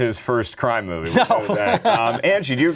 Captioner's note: laughing